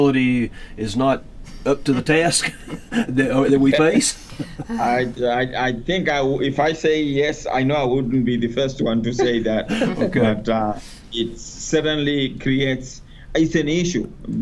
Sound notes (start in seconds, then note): 1.5 laughs; 9.2 laughter